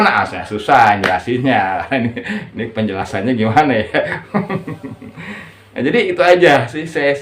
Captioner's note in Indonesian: tertawa